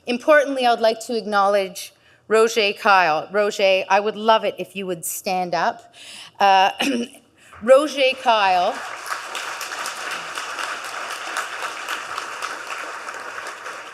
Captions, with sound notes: Importantly, I would like to acknowledge Roger Keil Roger, I would love it if you would stand up. Roger Keil, (audience claps)